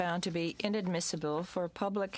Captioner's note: speaking in french